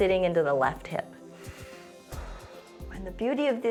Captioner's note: inhales and exhales